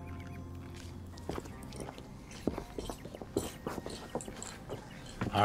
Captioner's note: footsteps thudding